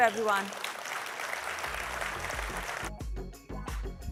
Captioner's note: applause